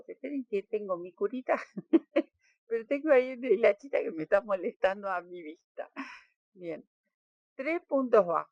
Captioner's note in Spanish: risas